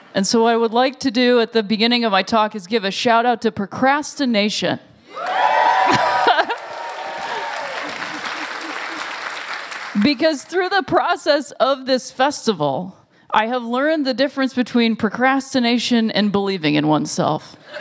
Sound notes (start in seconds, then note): 5.0 cheers; 5.2 applause